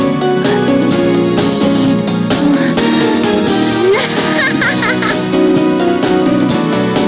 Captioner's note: laughing